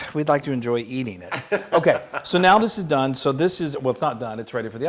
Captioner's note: laugh